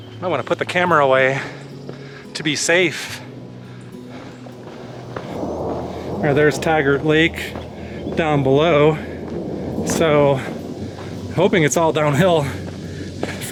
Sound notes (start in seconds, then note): 8.3 thunder rumbling